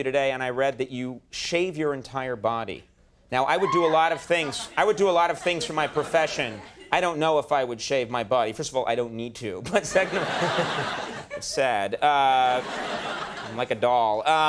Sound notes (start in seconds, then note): 3.5 lady whooping; 9.7 audience laughing